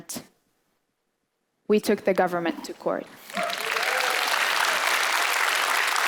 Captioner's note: applause